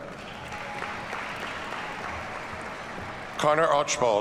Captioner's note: audience cheers and applauds